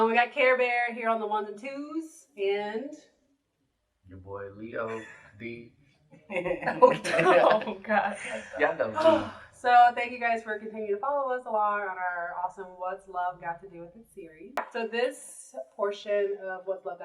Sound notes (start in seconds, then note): 6.2 laughter